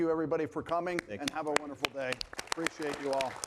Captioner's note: audience applauding